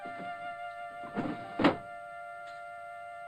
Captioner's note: drawer slides shut; melancholy music